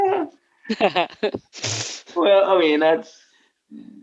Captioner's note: laughing